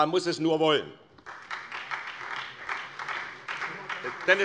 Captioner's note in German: Beifall SPD